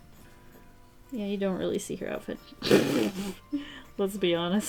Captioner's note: laughs